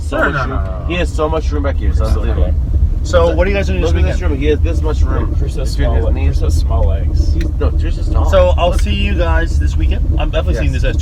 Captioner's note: разговоры на свои темы